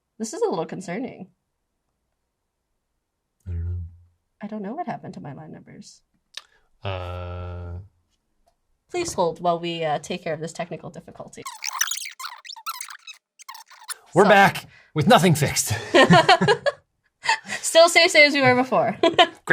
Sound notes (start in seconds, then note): 11.4 fast forward sounds; 15.6 laughter